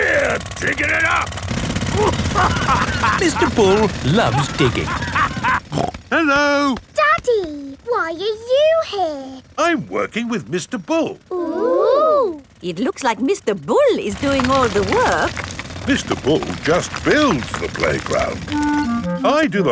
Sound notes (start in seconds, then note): 1.9 laughing